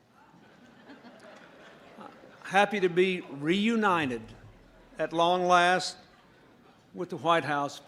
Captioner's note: laughter